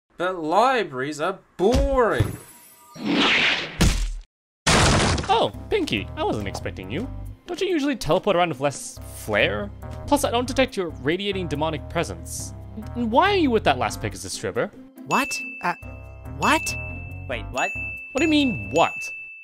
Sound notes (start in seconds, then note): 2.7 portal opens; 16.4 three dings